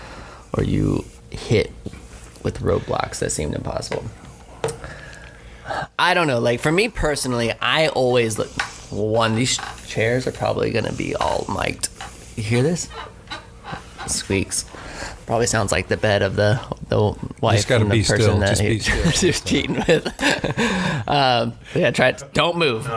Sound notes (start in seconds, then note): 13.5 squeaking